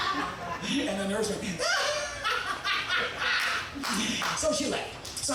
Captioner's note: laughing wildly